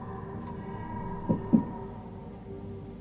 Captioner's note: knock Knock